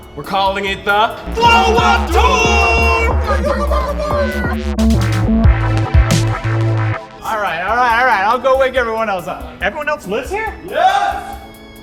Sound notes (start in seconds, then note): 3.1 celebratory noises; 4.8 funky electronic music